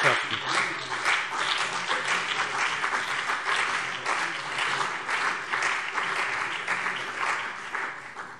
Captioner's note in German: Beifall CDU und BÜNDNIS 90/DIE GRÜNEN